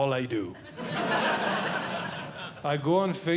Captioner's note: audience Laughing